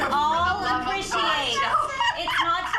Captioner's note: laughs